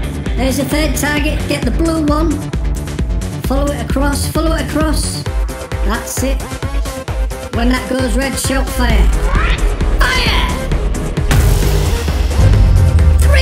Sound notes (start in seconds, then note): 8.5 blaster charging up; 11.0 loud blast; 12.1 boom!